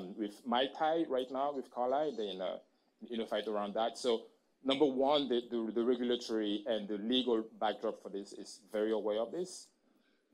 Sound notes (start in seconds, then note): none